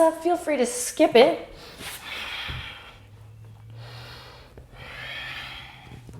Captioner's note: deep breathing